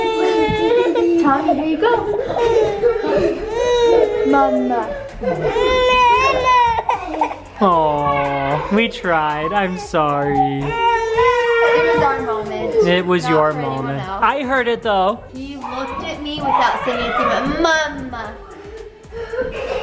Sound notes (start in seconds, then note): 5.7 crying